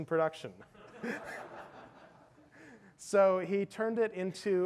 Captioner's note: audience laughs